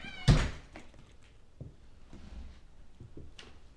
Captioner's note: door slams